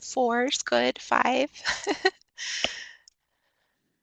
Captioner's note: chuckles